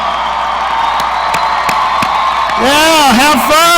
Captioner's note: audience cheering